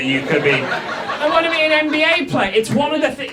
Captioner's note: audience laughs